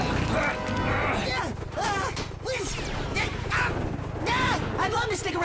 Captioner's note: prowl groaning; exclaiming